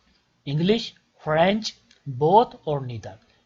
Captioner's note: English